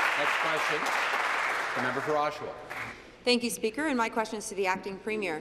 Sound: applause

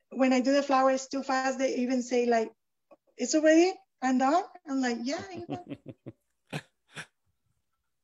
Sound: chuckles

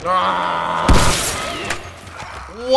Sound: Clicker croaks; spores burst

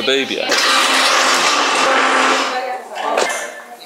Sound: sound of something getting broken probably

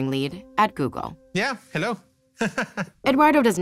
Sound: laughs

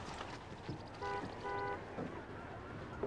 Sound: horn beeping

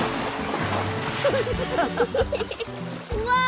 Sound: laughing

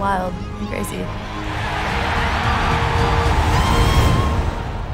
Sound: cheering

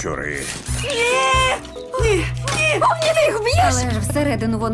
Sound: screams

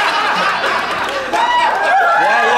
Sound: audience whoops

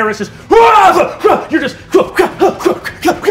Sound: imitating fighting

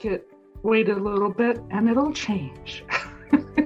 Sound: chuckles

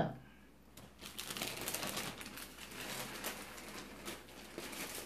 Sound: paper crinkling

